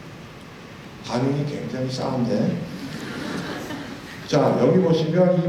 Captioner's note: laugh